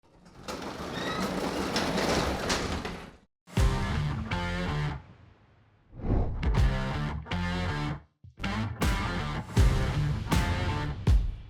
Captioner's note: rock music; garage door opening